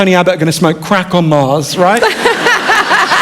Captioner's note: laughter